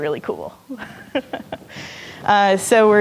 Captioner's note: laughing